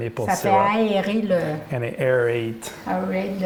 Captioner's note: French